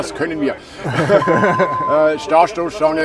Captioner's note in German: lachen